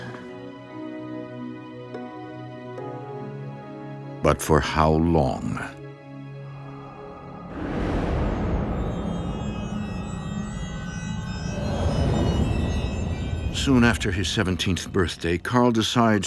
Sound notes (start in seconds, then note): 8.6 strident tones